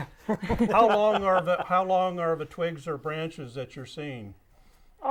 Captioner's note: laughing